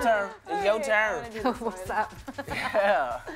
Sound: laughing

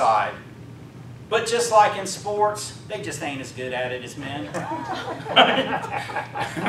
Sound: laughing

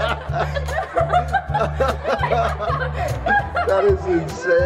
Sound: all continue laughing

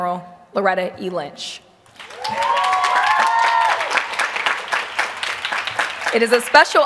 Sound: applause

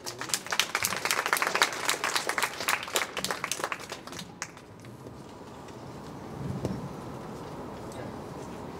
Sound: clapping

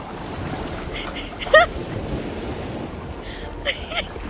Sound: laughing

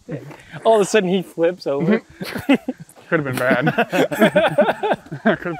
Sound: laughter

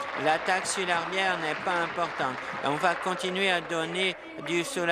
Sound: applause

